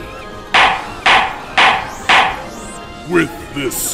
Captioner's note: gavel clacking